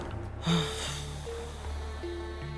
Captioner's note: sighs in yucatecan